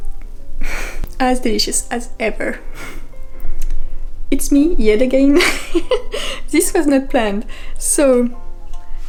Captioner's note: laugh